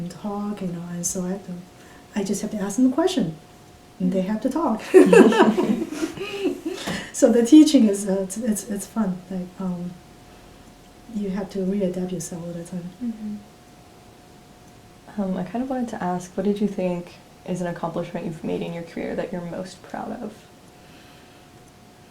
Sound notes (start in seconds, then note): 4.8 all laugh